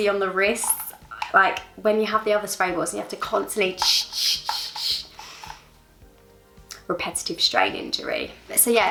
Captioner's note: spray noise